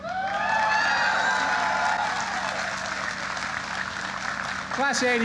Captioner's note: applause